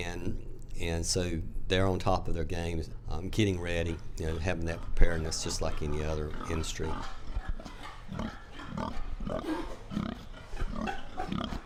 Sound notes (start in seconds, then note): 7.6 hogs grunting